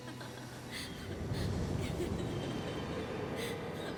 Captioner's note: woman laughing